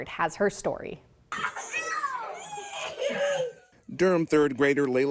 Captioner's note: kids laughing